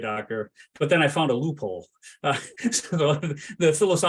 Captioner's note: laughs